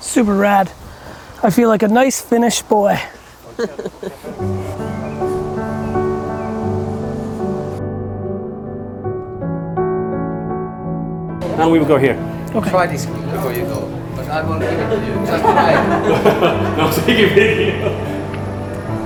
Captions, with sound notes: - Super rad, I feel like a nice Finnish boy. (gentle music) - Now we can go here. - Before you go (group speaking and laughing)